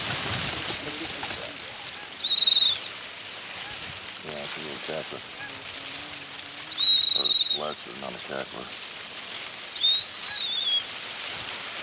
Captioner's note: crane calls